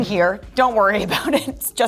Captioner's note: Troian chuckles